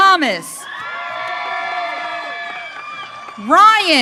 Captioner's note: audience cheering